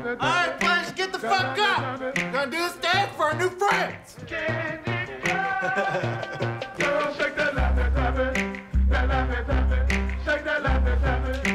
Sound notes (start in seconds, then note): 5.2 laughs